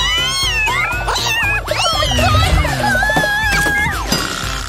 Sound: meows

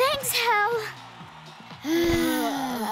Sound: exhausted groans

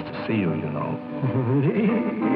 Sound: awkward chuckle

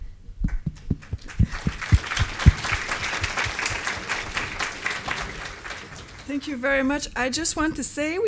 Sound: applause

